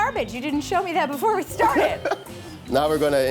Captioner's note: laughs